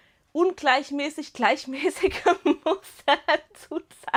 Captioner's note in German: Gelächter